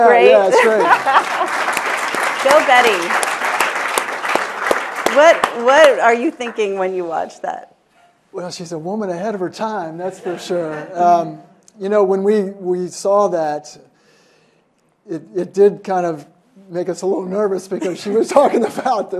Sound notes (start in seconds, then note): 5.5 applause